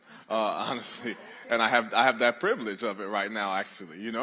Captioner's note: laughter